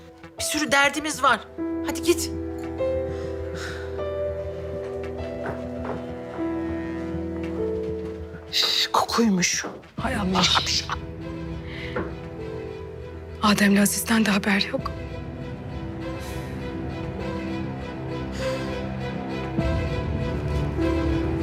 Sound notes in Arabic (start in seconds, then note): 2.3 تستمر الموسيقى الدرامية; 11.7 موسيقى توتر; 15.7 موسيقى توتر; 18.3 يتنفس